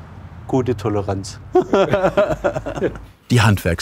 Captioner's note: both laugh